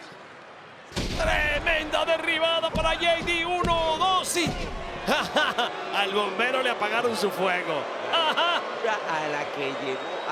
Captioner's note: laugh